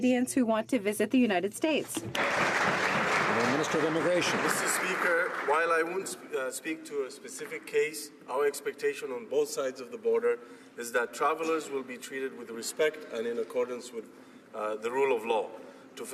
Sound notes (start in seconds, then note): 5.1 some Applause